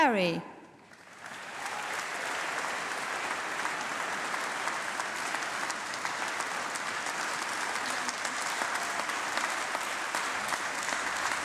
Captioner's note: applause